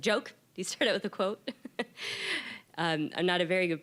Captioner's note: laughing